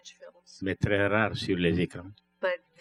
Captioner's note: speaking french